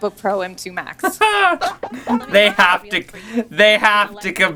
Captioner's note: both laugh in pathetic comparisons